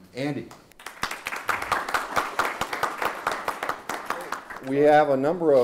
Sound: audience applauds

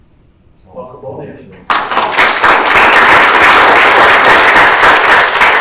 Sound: audience applauding

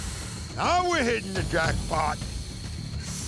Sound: hissing

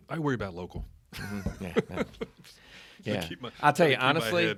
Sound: laughing

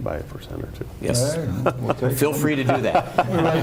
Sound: laughing

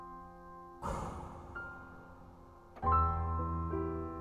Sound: distant nuclear explosion

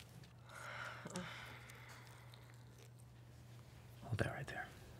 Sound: she exclaims softly

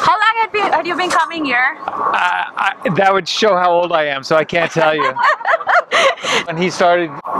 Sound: laughs

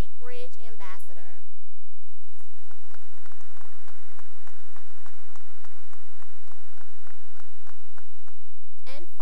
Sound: applause

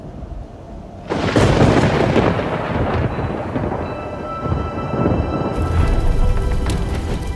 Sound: thundering

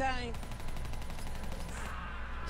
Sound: gunshots

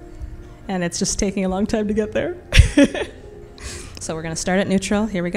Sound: laughs

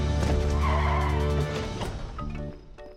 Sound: tires screeching

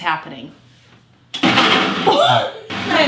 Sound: laughing; blender whirs

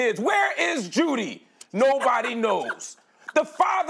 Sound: laughs

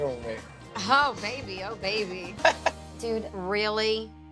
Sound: chuckles

